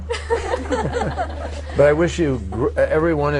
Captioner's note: laughter